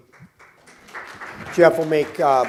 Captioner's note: applause